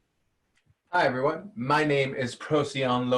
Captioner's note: speaking in a foreign language